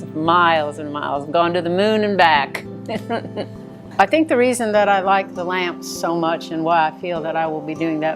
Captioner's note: laughing